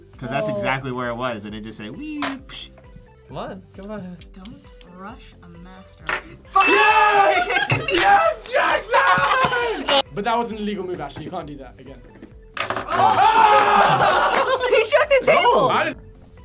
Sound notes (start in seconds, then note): 6.9 group laughs; 12.6 magnets clattering; 13.2 laughs